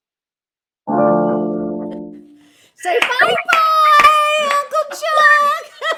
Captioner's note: shrieks, screams, hoots